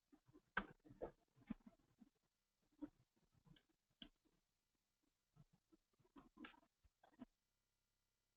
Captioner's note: pause